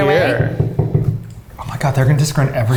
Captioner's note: knocking on table top